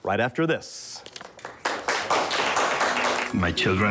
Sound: applause

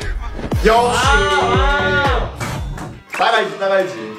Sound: boom!

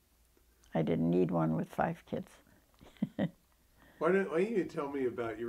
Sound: laughs

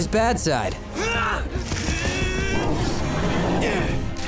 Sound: grunting

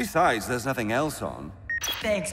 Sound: remote beeps

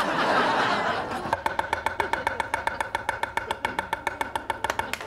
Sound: audience laughing; chopping

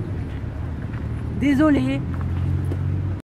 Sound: in french and not sorry

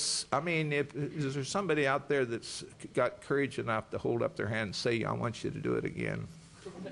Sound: laughter

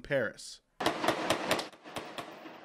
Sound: gun shots

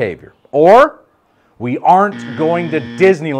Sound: negative buzzer

